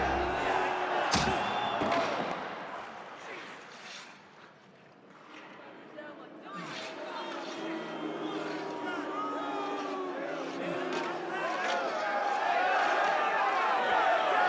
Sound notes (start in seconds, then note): 3.7 crowd going silent; 8.4 crowd booing